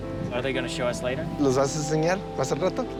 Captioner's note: speaking Spanish